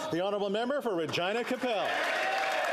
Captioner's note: applause